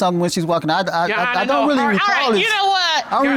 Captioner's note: stutters